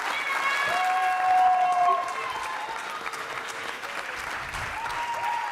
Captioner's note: audience applauding; audience cheering